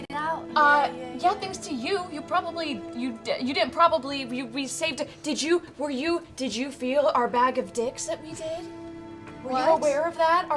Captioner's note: excited stammering